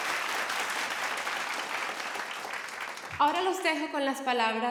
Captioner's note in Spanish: Aplausos